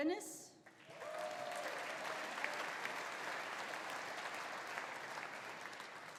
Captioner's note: audience applauding; audience cheering